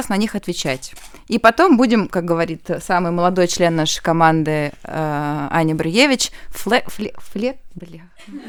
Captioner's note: laugh